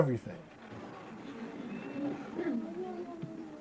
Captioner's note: background noise from audience members